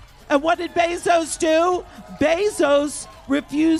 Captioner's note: cheers and applause